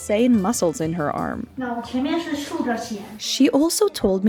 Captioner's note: speaks Chinese